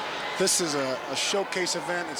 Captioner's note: crowd cheering